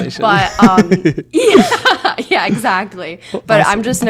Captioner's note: laughs